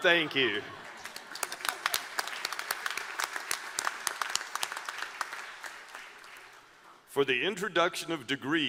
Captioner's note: applause